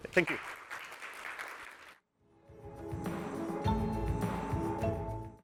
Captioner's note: applause